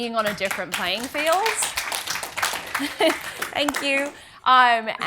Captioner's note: audience applauds